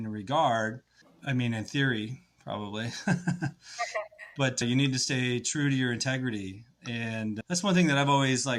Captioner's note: laughs